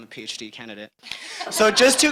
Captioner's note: audience laughing